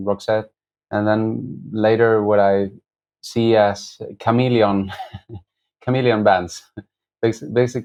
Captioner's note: laughter